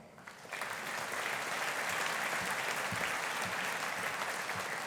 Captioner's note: audience applauding